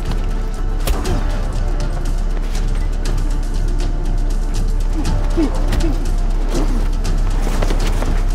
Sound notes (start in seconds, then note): 0.0 tense music; 1.0 blow landing